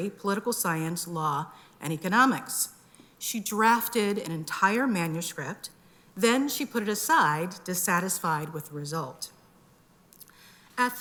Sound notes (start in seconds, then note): none